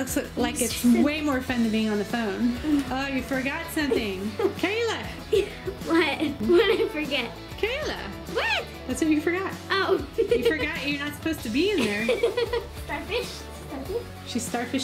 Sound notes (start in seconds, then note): 10.0 giggle